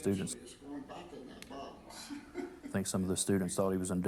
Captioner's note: laughs